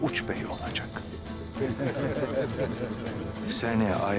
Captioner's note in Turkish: Gülme sesleri